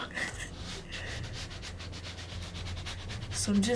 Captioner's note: spatula scraping